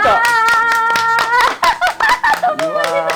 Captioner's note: both happily clapping